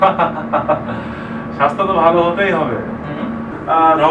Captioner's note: laughing